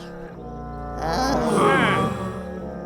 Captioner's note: sighing